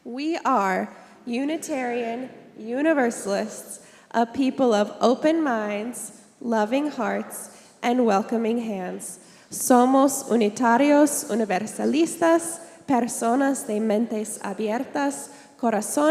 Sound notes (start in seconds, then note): 9.7 all recite Affirmation in Spanish